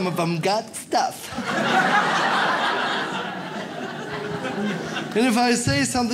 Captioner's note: audience laughs